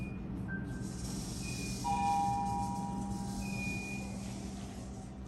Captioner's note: elevator dings